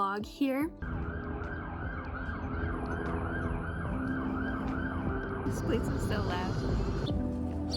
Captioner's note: sirens, loud car noises, helicopter